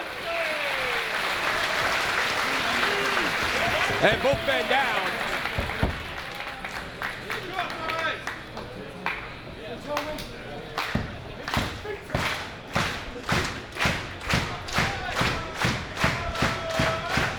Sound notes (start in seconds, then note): 5.4 applause